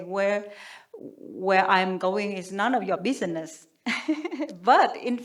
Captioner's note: chuckles